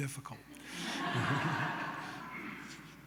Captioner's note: laughter